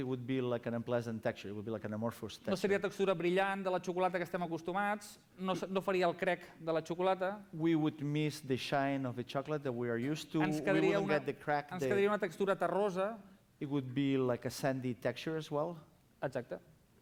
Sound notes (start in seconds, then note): 4.9 non-english speech; 12.6 non-english speech